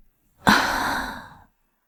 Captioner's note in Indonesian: Menghela napas